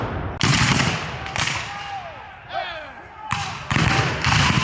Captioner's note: guns fire